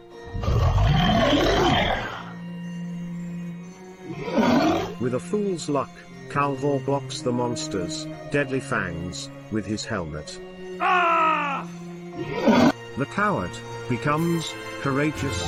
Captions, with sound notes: [Monster Roar] [Monster Roar] With a fool's luck Calvoore blocks the monster's deadly fangs with his helmet... [Shouting] The coward becomes courageous !